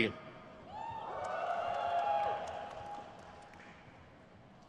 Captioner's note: crowd cheers